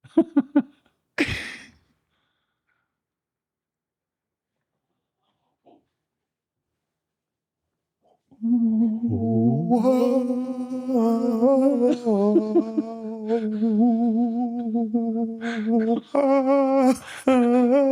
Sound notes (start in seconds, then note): 2.1 laughing; 8.6 humming